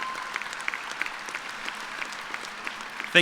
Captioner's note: cheers and applause